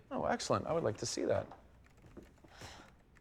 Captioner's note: sighs